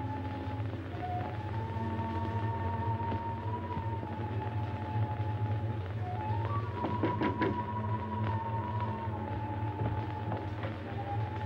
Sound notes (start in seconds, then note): 7.0 door knocking